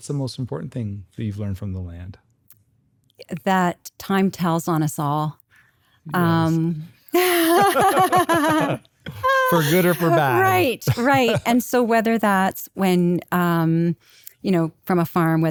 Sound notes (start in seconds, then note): 7.1 both laugh